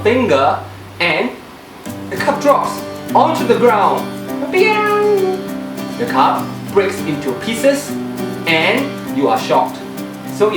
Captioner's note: piang